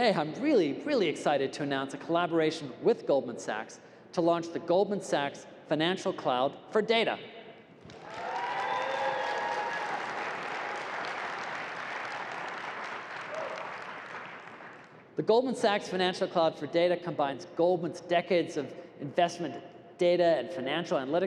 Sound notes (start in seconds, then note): 7.9 cheering and applause